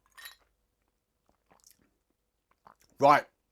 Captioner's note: ice clinking